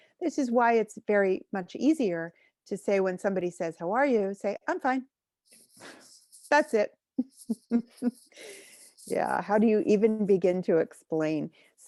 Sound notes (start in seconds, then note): 7.1 chuckles